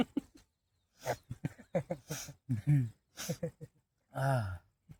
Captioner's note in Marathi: हास्य